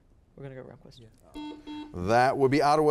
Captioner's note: buzzer beeping